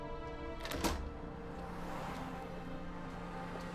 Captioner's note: door opens; door closes